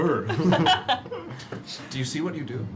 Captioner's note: laughter